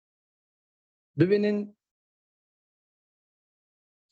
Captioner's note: speaking dari